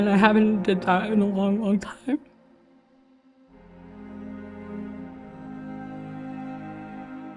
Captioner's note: voice cracking